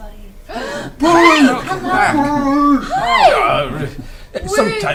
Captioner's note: gasp